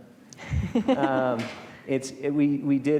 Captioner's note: both speakers chuckling